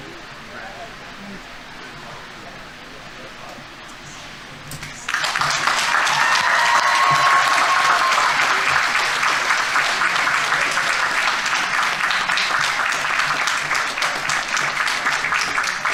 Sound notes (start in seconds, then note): 5.0 audience members cheering; 5.1 audience applauding